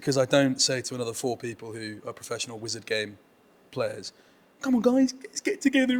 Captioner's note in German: spöttisch